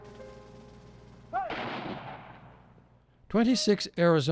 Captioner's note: gunshots